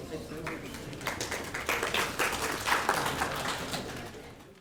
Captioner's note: applauding